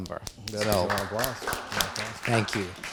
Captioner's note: audience applauds